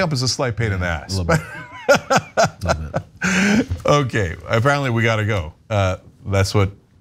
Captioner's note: laugh